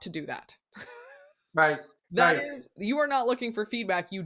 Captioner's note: both laughing